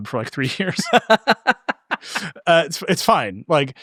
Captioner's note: both laughing